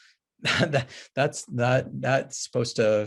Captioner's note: chuckles